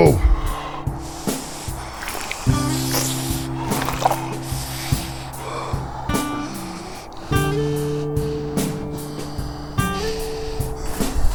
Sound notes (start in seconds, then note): 3.4 heavy breathing